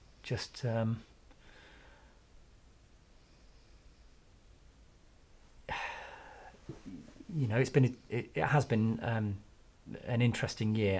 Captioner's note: sighs